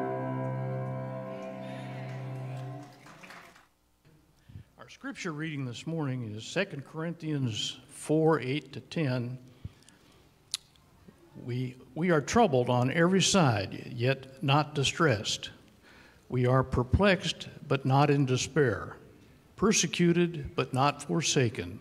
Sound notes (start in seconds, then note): 0.0 gentle piano music; 2.8 audience applauding